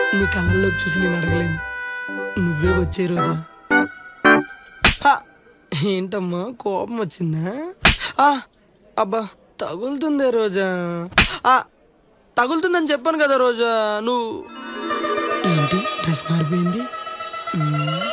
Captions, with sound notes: I can't ask you. You come to me. [slaps] Are you angry? [slaps] It's hurting Roja. [slaps] I said it's hurting. What is this dress change?